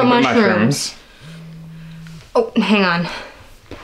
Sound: Rose's phone rings

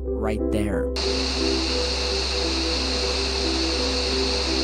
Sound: statisch

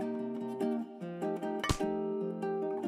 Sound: pop

